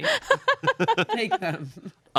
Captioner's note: everyone laughs